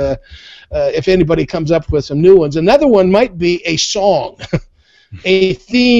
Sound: laughs

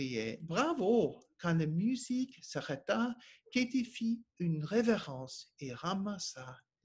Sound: speaking French

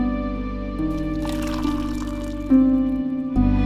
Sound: tea being poured into a glass

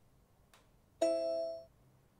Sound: ding

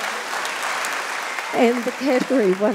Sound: audience laughing and clapping

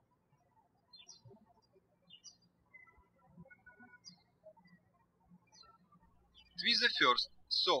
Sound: birds chirping

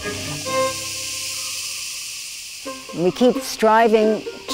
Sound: cicadas buzzing

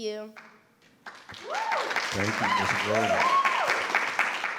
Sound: everyone applauding

